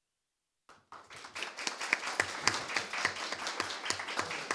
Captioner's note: audience clapping